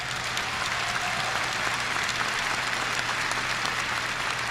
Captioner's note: audience applauding